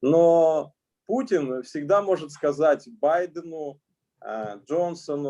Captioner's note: speaking Russian language